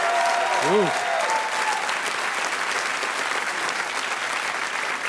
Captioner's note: audience applauding